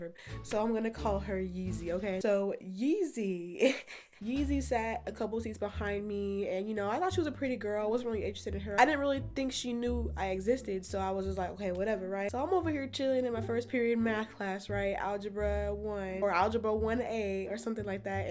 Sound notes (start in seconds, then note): 3.6 chuckles